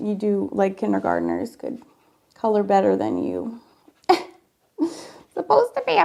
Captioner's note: laughs